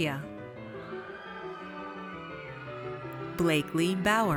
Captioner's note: audience cheers